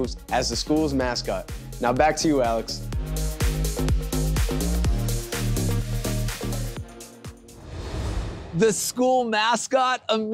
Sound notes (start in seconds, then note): 7.5 graphics whoosh